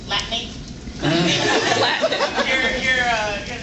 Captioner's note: laughs